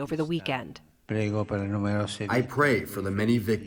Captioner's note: through translator